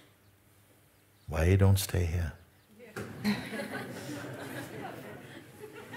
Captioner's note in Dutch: gelach